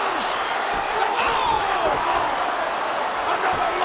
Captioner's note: audience shouting